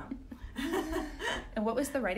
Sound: both laughing

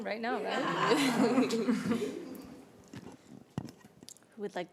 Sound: laughter

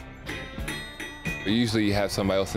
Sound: metal tapping

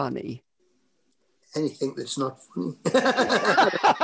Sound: laughter

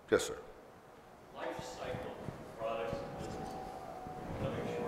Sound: voiceover

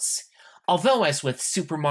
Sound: none

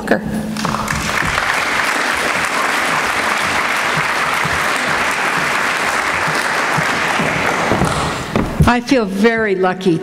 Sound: applause

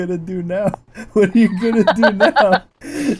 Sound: laughing

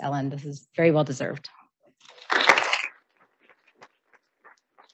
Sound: audience applauding

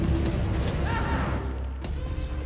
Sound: yells

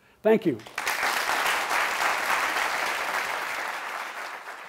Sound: applause

